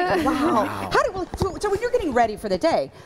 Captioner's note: laughter